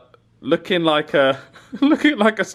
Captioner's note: laughs